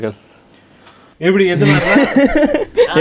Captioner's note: group laughs